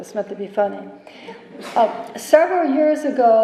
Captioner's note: laughter